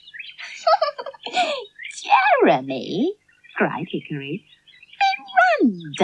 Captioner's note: laughs